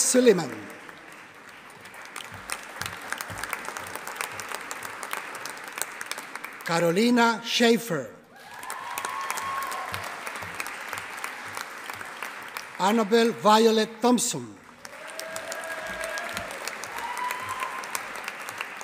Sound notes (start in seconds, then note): 0.0 audience applauding; 8.3 audience applauding